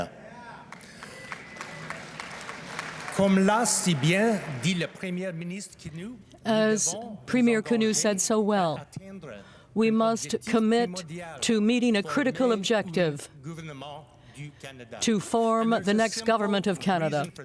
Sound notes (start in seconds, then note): 4.6 applause; 10.6 speaking french